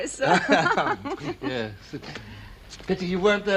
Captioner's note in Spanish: Risas